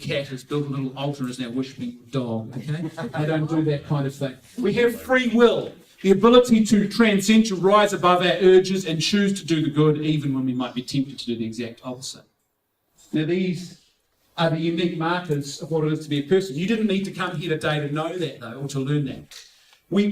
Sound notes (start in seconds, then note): 2.4 laughing